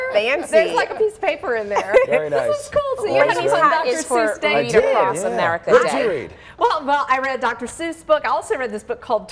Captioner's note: laughter